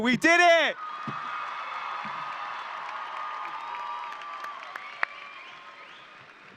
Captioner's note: audience cheering and applauding